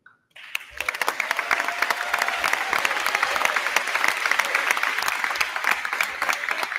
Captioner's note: crowd clapping; crowd cheering